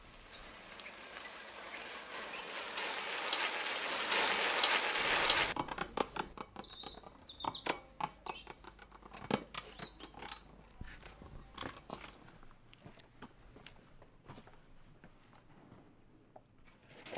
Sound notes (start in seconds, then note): 5.7 ball smacking to the wall